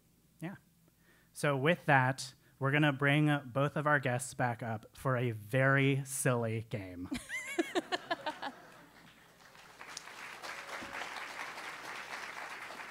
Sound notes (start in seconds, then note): 7.2 laugh; 8.5 applause